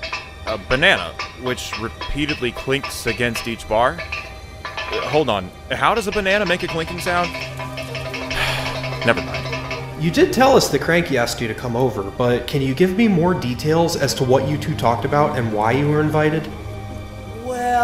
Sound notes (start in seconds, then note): 0.1 metallic clanking; 8.3 sigh